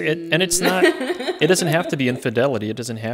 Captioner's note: laughing